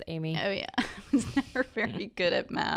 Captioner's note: laughs